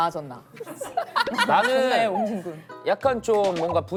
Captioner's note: laughs